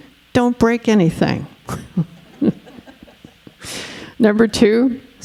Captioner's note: all chuckling